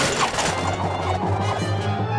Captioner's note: whirring